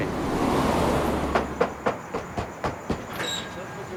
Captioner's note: knocking